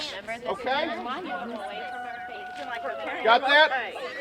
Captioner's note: rooster crowing